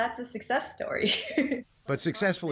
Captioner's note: laughter